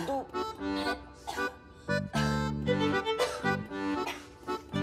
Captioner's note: Coughing